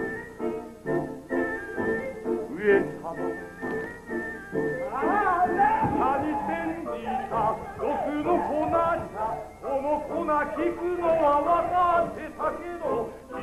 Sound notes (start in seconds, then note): 6.1 Shogun screams in panic